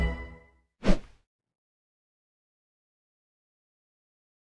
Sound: dramatic instrumental music; air whooshing

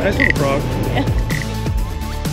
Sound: wood rubbing

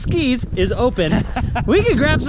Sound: laughs

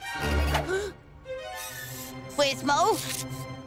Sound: intense music; gasps; intense music

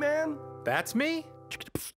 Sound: beatboxing

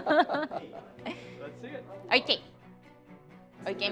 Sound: both laughing

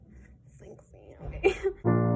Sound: laughs

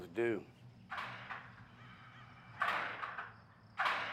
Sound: clattering from inside

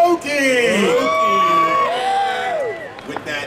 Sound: audience cheering

